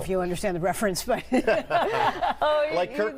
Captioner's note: laughs